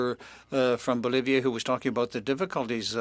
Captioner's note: speaking French